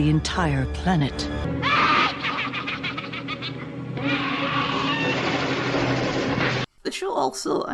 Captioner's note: witches cackle